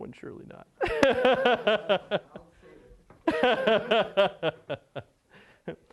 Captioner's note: laughter